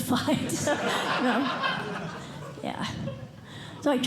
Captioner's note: laughter